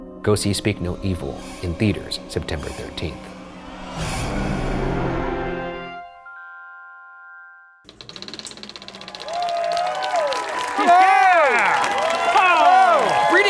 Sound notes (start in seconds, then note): 4.1 dramatic music; 5.3 bright music; 7.8 film reel clicking; 7.9 audience clapping